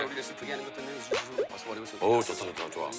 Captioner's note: murmuring